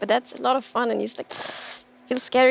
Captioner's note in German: inhaliert scharf